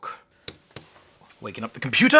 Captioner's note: keyboard clicking